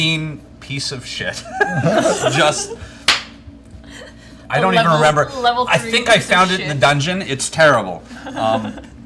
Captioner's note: laughs